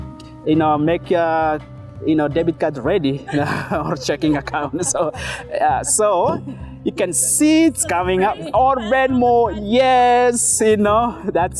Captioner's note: laughing